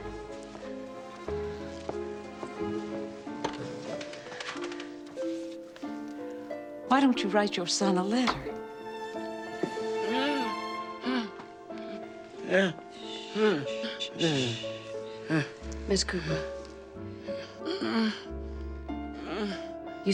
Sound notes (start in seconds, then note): 0.2 dramatic music; 10.3 Lilly gasps; 19.1 Lilly groans